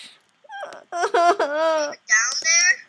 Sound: sobbing

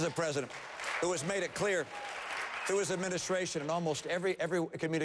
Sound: applause

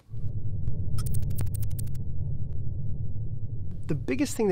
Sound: electronic typing

